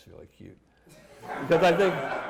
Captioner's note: laughter